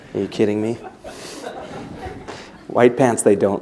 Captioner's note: laughter